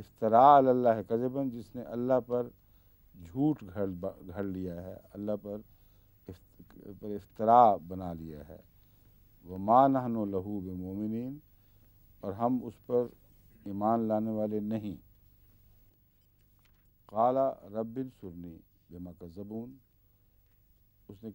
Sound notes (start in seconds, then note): 0.2 Arabic; 9.4 Arabic; 17.0 Arabic